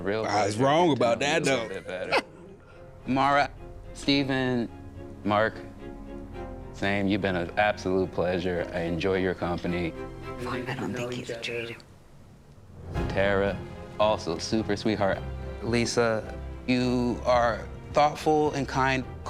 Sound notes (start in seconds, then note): 1.5 laughing; 12.8 dramatic music